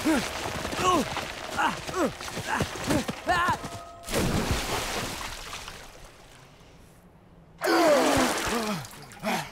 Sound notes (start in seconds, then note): 8.5 gasping